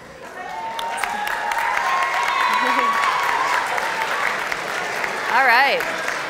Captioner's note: audience cheers and applauds